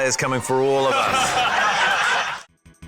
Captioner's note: laughter